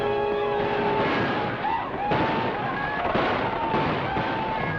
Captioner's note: yelling